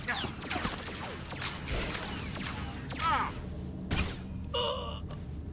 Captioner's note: gasps